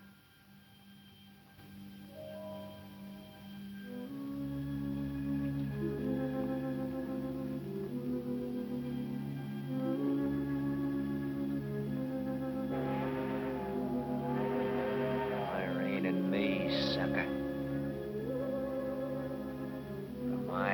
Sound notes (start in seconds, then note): 15.8 dramatic music; 15.8 train whistling